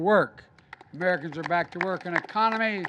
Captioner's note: applause